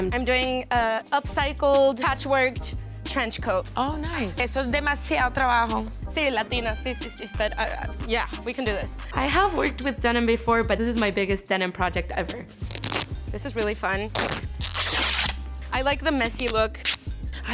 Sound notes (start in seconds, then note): 4.5 speaks in foreign language; 14.0 denim ripping